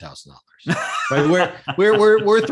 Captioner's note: laughing